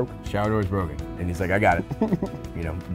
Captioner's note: laughs